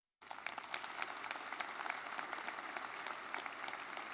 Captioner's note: audience clapping